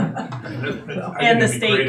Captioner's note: all laughing